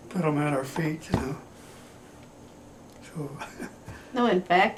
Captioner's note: laughs